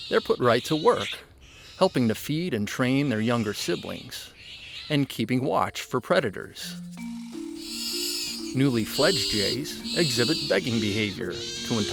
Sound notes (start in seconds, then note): 6.5 light music; 6.8 birds calling